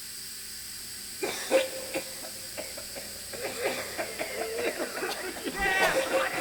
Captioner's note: guards coughing violently